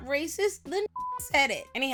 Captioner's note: beep